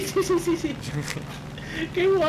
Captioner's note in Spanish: risas